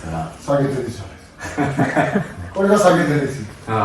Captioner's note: laughs